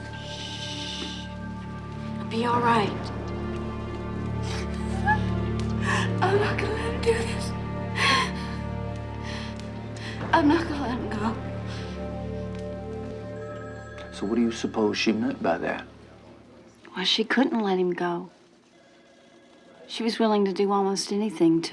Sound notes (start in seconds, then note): 3.2 ominous music; 4.5 Nancy sobbing; 8.6 ominous music; 11.9 solemn music